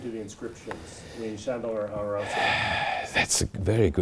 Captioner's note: sighing